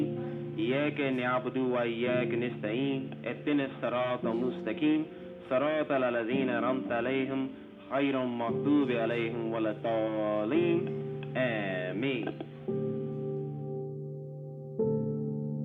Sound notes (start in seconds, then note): 0.0 continues speaking in Arabic; 3.6 continues speaking in Arabic; 12.5 somber music